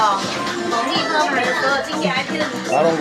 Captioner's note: speaking in foreign language